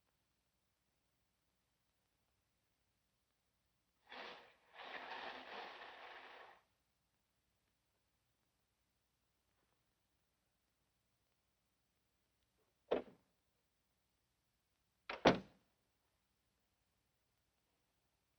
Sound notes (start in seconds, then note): 15.2 door closing